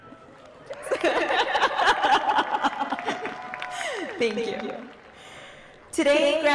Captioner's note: applause; laughter